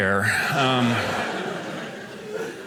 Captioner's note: audience laughing